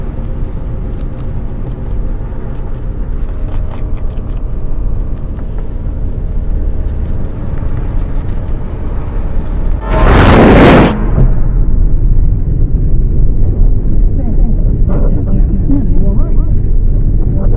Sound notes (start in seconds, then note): 4.0 creepy rustling sounds; 12.6 all sounds muffled